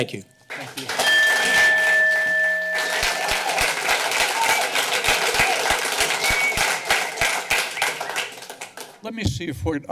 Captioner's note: clapping